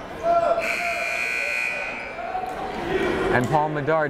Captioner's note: timer buzzes